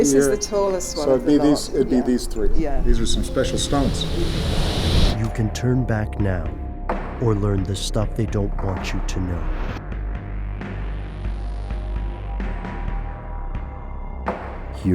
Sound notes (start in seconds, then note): 5.2 voiceover; 10.3 dramatic music